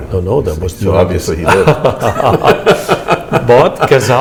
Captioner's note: laughter